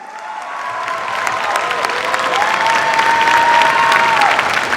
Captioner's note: cheers, applause